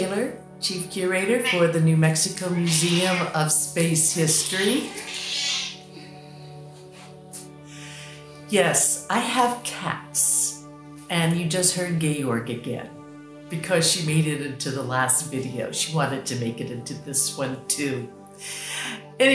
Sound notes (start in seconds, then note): 0.0 meow; 2.4 meow, meow; 6.8 meow